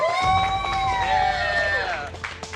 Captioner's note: cheering